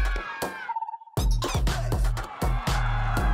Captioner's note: upbeat hip-hop music; yelling; cheering